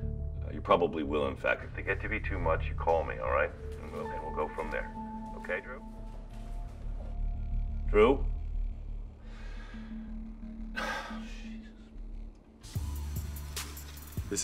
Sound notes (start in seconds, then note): 10.4 sighs; 12.7 rhythmic hip hop music